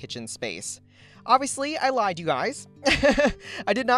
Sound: laughs

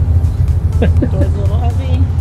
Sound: laughs

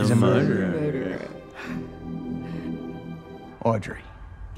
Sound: gasps

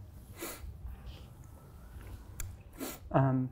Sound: sniffs

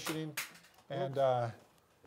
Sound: clattering

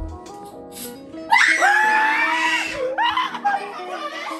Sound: screams in fear

